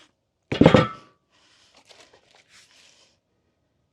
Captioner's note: wood thuds